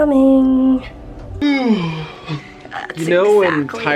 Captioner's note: yawning